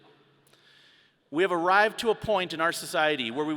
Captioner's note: none